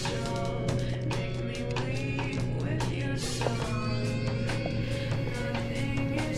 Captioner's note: footsteps thudding